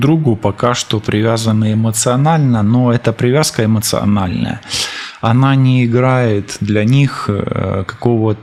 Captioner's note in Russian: фыркает